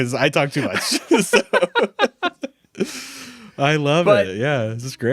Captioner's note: laughing